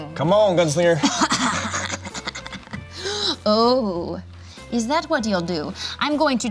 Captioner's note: laughs evilly